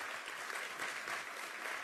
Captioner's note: applause